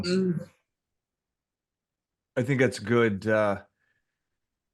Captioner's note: murmurs